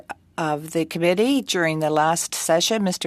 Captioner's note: speaking french